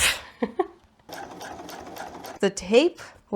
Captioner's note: giggles; sewing machine noises